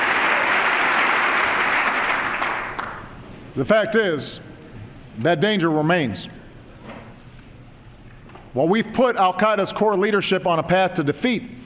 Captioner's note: applause